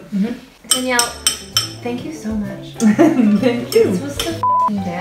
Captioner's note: laughs